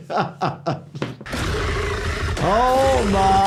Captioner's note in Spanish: el monstruo gruñe